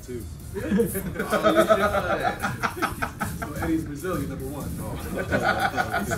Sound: laugh

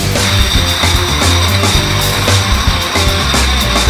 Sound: bottles clinking

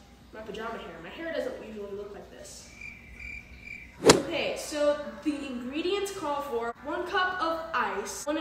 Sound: cricket sounds

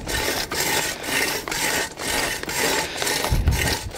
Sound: scraping sound

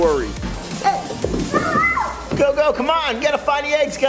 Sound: kids playing

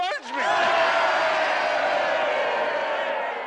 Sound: all cheer

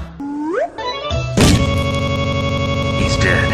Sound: cartoony lean in; Popplio lands with a sickening thud

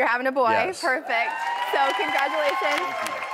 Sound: crowd cheering

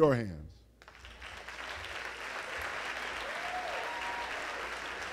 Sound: applause

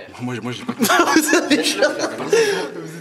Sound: laughter

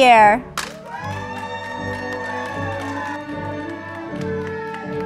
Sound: audience applauding

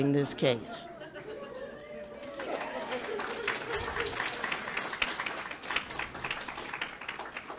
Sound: public laughing and clapping

